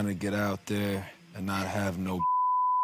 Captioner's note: beeps